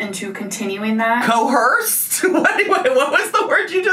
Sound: laughing

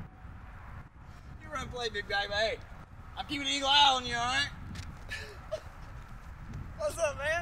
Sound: laughs

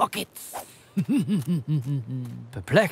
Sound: evil chuckle

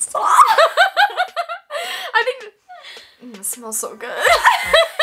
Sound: laughs

